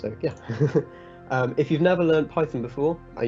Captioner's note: chuckling